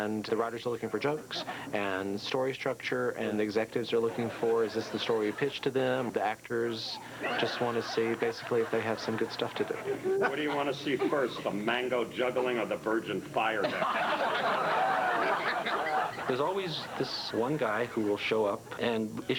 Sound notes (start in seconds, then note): 13.6 laughter